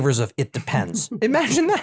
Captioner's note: laugh